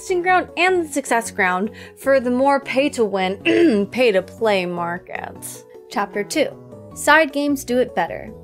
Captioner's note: cough